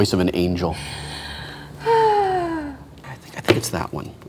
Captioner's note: sighs